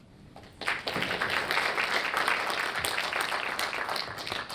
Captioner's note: audience applauds